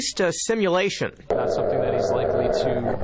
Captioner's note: dog growling